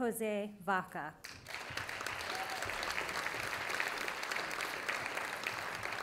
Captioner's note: audience applauding